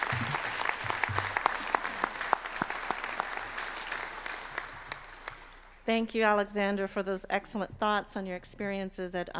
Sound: applause

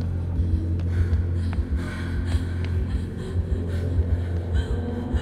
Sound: breathing heavily

